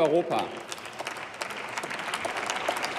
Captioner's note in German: Beifall